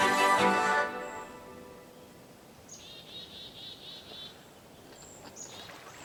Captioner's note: birds chirping